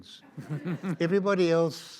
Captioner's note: audience laughs